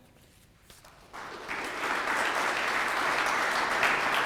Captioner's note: audience clapping